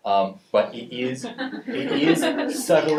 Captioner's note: audience laughing